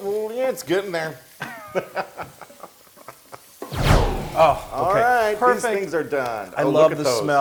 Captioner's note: laugh